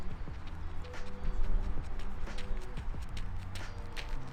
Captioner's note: upbeat music; feet pounding